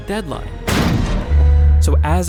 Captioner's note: van thudding